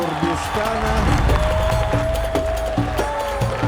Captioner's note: cheering